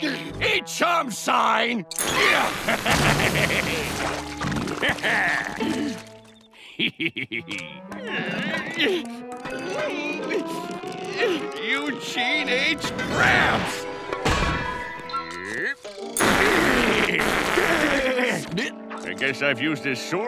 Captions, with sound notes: Eat chum, sign. [laughing] [grunting] Eugene H. Krabs. [clanking] I guess I've used this sewer hole